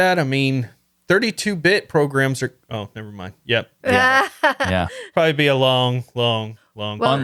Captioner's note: laughing